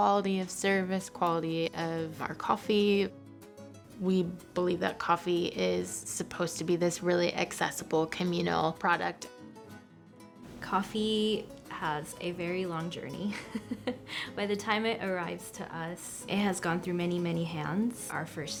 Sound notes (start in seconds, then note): 10.5 upbeat music continues; 13.3 laughing